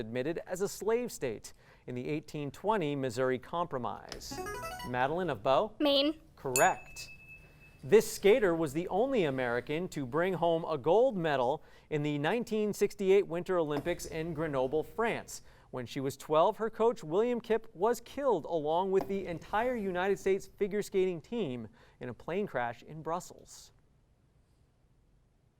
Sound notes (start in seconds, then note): 4.4 ringing; 6.5 ding